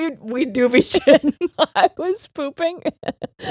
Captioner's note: both laughing